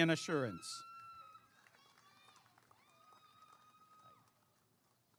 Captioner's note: applause and cheering